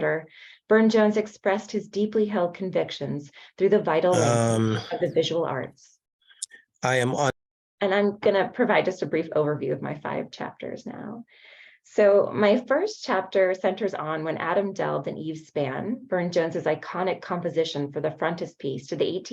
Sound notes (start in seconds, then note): 6.8 chatter